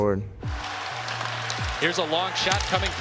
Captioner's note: crowd cheering